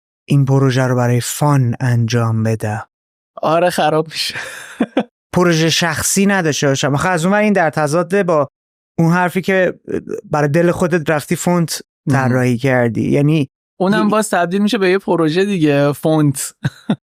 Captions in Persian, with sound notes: این پروژه رو برای فان انجام بدم؟ - آره. خراب می‌شه. (خنده) - پروژه‌ی شخصی نداشته باشم. آخه از اون‌ور این در تضاده با اون حرفی که برای دل خودت رفتی فونت طراحی کردی. یعنی... - اون هم باز تبدیل می‌شه به یه پروژه دیگه، فونت.